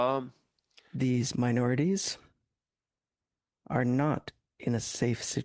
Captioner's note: speaking French